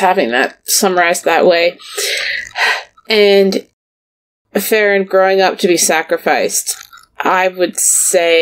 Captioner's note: laughs; sighs; sighs